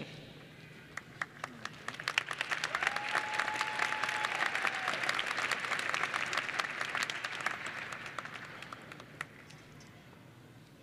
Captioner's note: applause and Cheering